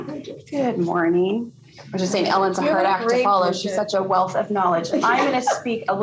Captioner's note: laughter